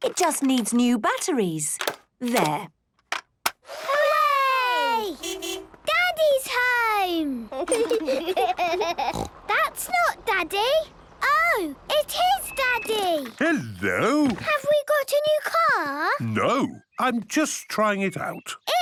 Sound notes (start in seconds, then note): 3.8 distant beeping